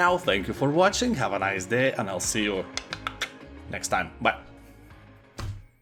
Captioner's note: clicks tongue